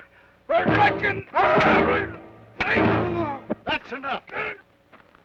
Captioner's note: Joshua groans